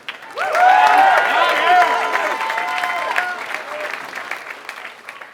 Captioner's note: applause